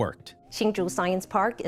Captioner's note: soundbite of archived recording